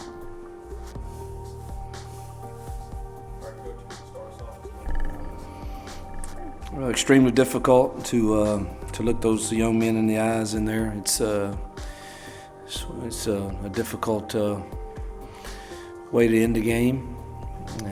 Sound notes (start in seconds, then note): 0.2 solemn music; 3.6 voiceover